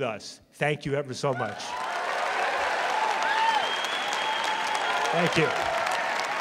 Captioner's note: applause